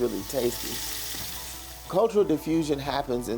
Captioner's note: food frying